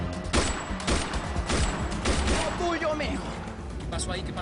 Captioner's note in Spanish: Disparos